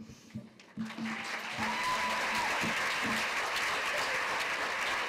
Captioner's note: applause